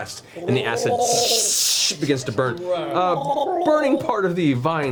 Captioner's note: gurgling; burning sound